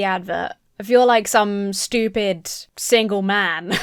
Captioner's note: laughs